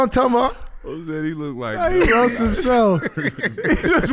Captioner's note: laughs